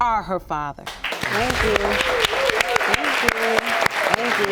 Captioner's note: audience claps